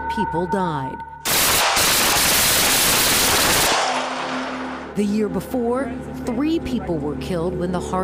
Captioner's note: gunshots